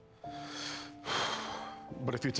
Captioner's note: exhaling